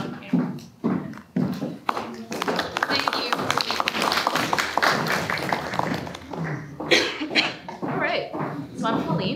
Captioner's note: applause